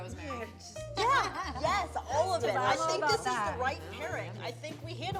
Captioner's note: laughter